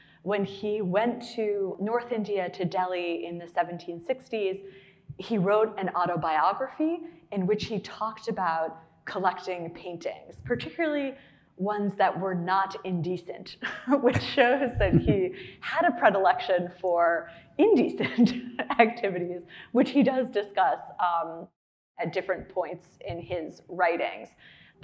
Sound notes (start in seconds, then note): 13.3 laughing